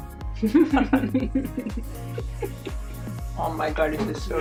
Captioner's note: laughing